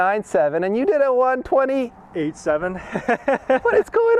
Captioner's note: laughs